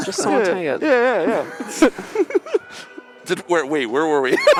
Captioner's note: laughter